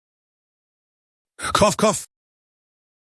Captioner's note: cough cough